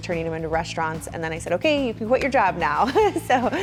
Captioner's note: laughs